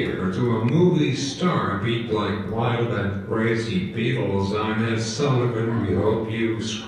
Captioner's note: computer voice